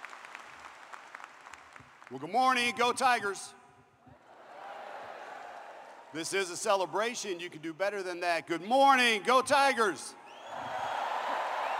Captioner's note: applause